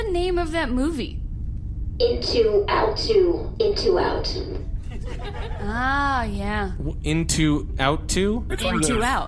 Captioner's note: audience laughter